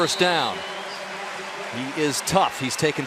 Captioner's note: pa announcement